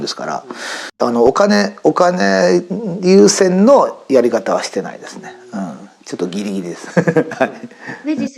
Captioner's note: laughs